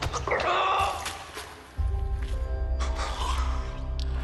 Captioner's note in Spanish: Quejido